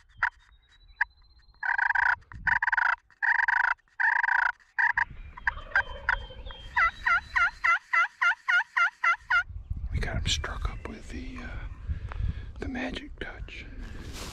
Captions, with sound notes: (imitates turkey noises) (turkey gobbling) - We got em' stirred up with the Magic Touch.